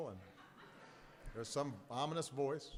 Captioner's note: laughter